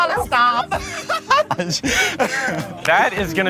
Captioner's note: laughs